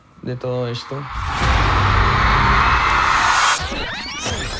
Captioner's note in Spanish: público aclama